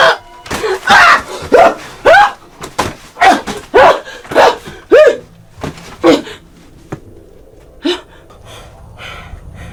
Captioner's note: screaming; sighs